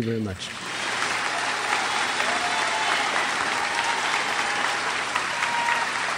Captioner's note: crowd applauds and cheers